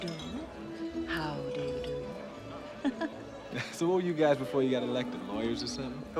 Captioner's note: laughing